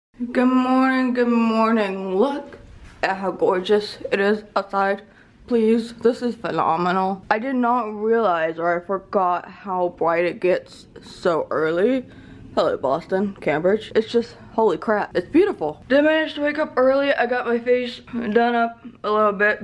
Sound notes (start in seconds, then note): none